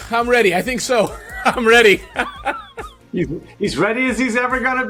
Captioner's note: laughs